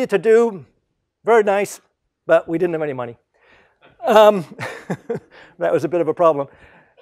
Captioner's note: laugh